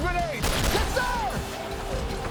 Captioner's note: gunshot